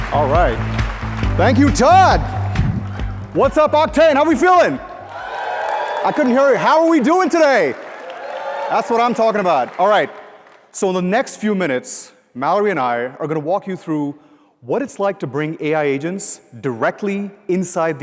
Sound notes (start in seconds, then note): 6.1 cheers and applause; 9.9 cheers and applause